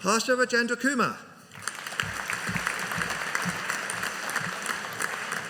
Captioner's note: audience applauding